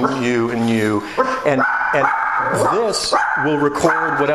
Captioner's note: Lulu starts barking 0:18 after walking into the home